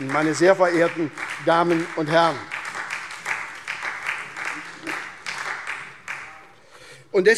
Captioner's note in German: Beifall SPD